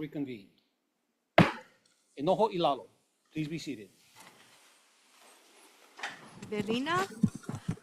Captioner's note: gavel bangs once